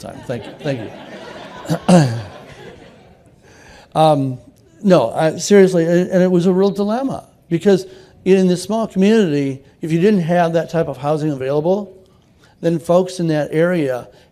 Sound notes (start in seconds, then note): 2.0 laughter